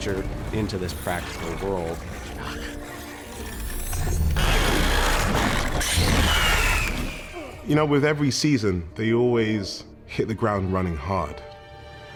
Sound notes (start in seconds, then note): 0.8 Itronok growling; 4.3 Itronok shrieking